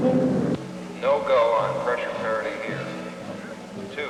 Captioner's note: man on PA